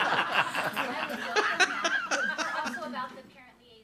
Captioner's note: audience laughs